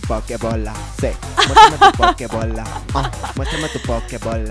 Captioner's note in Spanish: risas